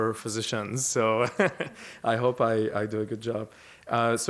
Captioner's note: laughter